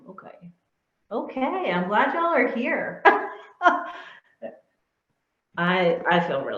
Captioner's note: chuckling